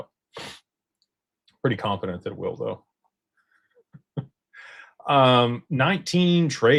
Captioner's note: snorts